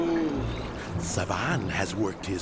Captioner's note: grumbling